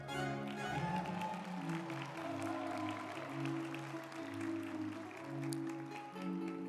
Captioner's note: group applauding; uplifting music